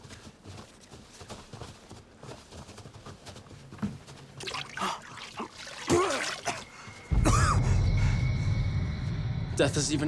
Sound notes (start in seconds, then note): 5.8 Homer spitting; 5.8 Homer gagging; 8.7 dramatic music